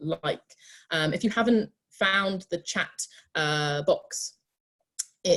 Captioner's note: on Zoom